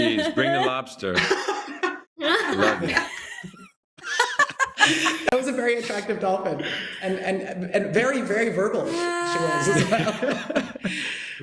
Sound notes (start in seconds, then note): 4.0 laughter